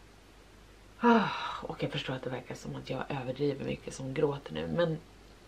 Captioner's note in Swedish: suck